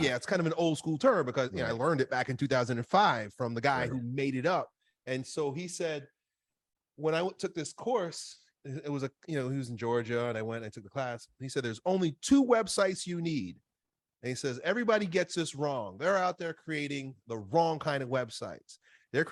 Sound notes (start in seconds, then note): none